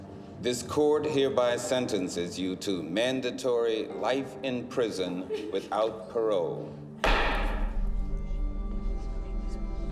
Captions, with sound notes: this court hereby sentences you to mandatory life in prison -without parole. -[gavel pounds]